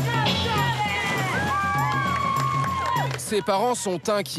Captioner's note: hollers